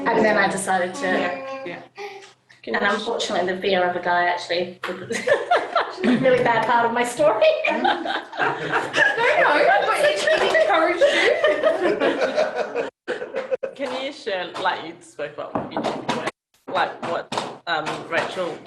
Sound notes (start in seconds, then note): 5.0 laughter; 15.1 laughter